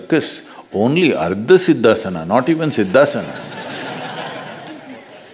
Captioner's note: laughter; 笑聲